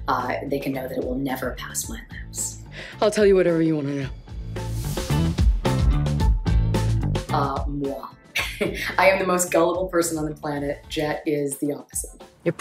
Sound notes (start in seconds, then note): 4.4 catchy music continues; 8.3 chuckles